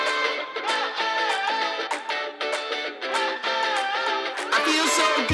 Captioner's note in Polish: Aplauz